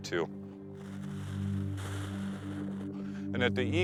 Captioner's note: blowing